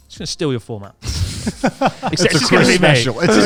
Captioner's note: laughs quickly